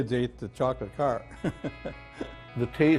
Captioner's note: laughs